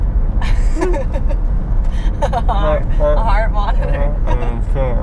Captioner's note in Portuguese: risos